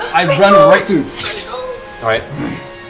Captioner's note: gasps